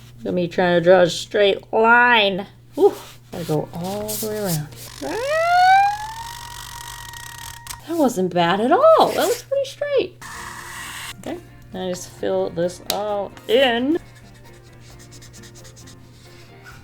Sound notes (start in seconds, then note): 5.0 screams